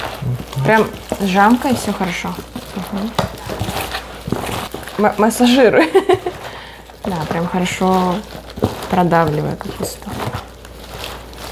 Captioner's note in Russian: смеется